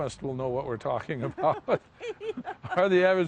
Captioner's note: laughs